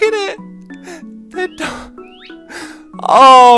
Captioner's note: gasps from cuteness